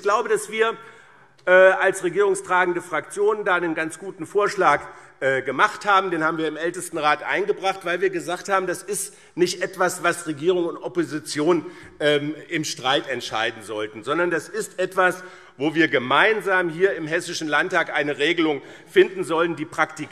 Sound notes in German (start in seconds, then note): none